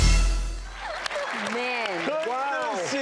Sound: applause

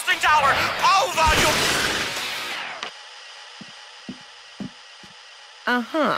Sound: static

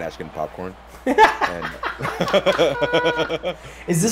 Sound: laugh

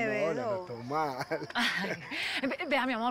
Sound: Riendo

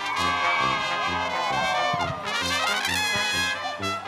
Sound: applause

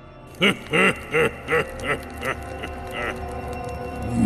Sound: evil laughing

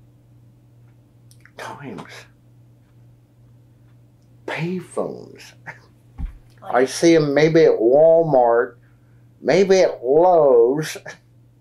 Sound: laughs

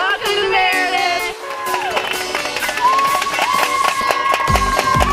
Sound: cheering

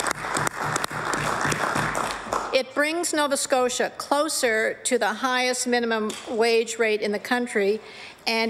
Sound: applause

